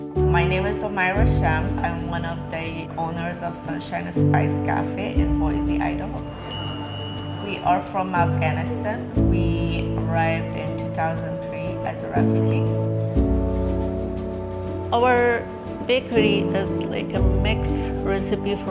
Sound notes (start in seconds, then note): 6.0 bell rings